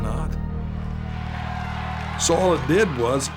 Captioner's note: crowd roars